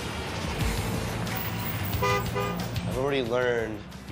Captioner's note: taxicab horn honks